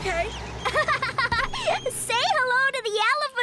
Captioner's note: giggling